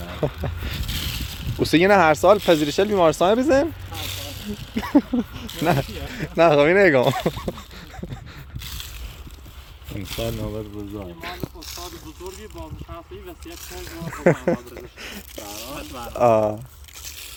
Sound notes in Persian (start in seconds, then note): 5.7 با خنده و به شوخی😂